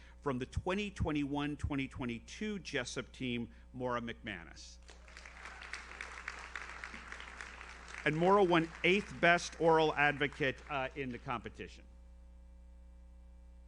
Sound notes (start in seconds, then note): 5.0 audience cheers; 6.7 audience applauds